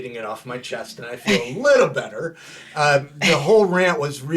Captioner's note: laughing